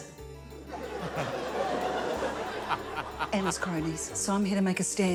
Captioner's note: laughter